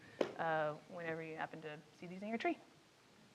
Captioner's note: speaks faintly